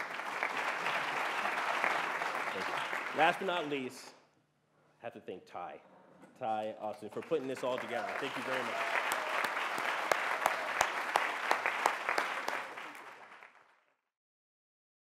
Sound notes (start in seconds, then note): 8.8 applause